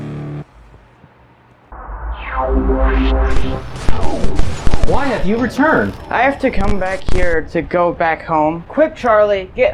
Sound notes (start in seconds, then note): 6.1 glitch